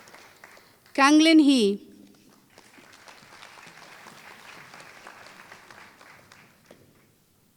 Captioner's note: applause